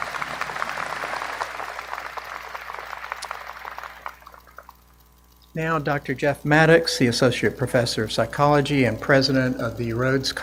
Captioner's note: applause